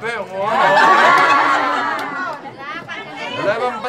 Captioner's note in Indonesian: tertawa